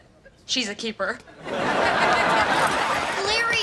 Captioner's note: audience laughs